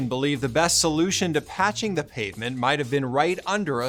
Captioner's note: none